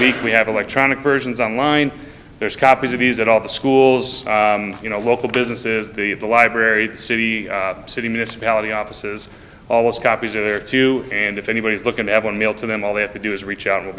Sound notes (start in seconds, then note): none